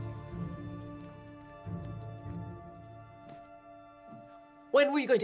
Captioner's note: footsteps pattering